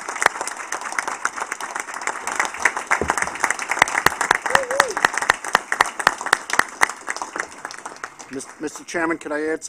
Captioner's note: applause